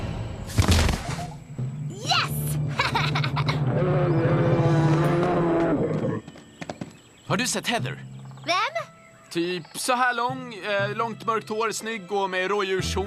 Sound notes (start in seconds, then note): 2.6 laughs; 3.6 bear roars